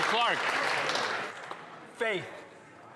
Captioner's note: applause